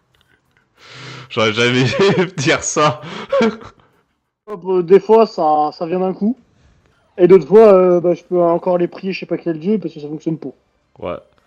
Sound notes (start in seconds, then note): 3.3 laugh